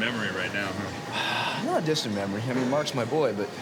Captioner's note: sighs